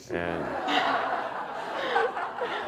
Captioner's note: audience laughing